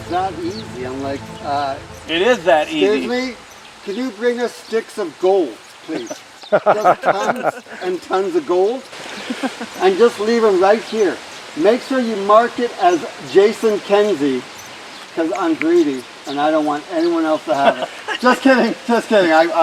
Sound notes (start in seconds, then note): 6.5 everyone laughing